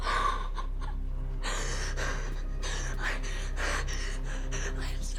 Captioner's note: Robyn sobbing; hyperventilating